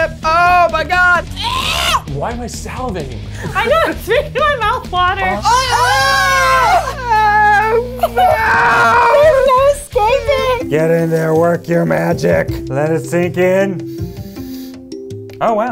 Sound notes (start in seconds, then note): 1.3 man gagging; 3.3 laughs; 5.4 both screaming; 13.8 sniffs